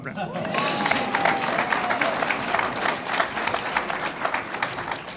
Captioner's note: audience applauds